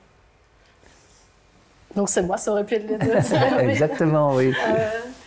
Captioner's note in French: rires